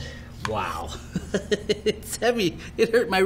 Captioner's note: laughs